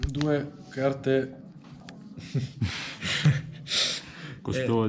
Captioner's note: laughs